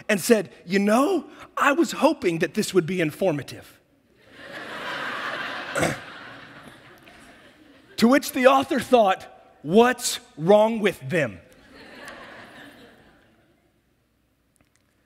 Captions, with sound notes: and said, "You know, I was hoping that this "would be informative." (audience laughs) To which the author thought what's wrong with them?